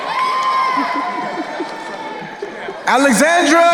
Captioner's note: crowd cheering